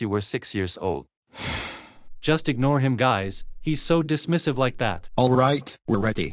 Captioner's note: sighing